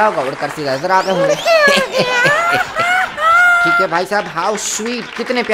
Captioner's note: kapil sharma laugh; laughs